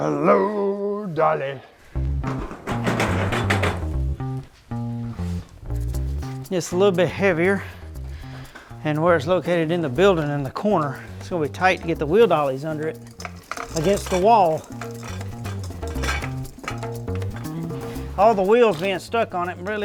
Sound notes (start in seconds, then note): 2.1 bright upbeat music; 2.2 metal clanking